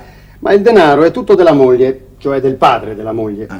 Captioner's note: none